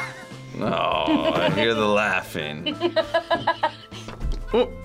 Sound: React laughs; laughs

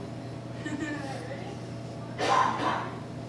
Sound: laughing

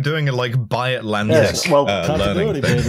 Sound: laughs

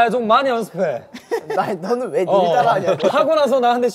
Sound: haha

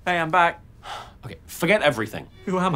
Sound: sighs

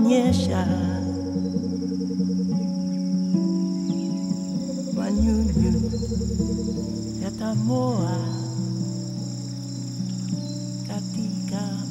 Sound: birds chirping

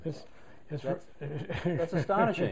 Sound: laughter

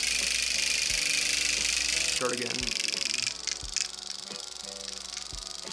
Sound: microneedle clacking

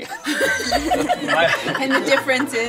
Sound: all laugh

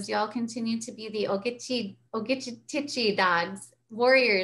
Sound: speaks in foreign language

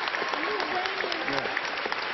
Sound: applause

